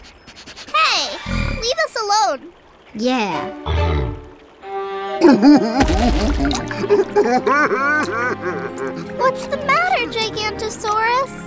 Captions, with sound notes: -Hey, leave us alone! -Yeah! [crying] What's the matter Gigantasaurus?